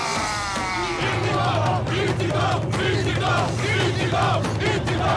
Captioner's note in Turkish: Hep bir ağızdan